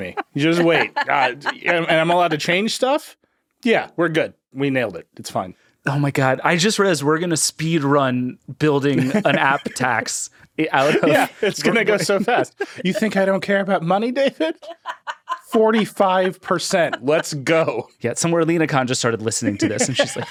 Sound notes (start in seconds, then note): 14.1 laughing